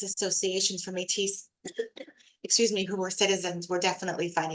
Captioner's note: coughs